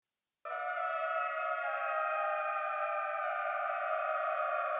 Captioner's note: eerie sounds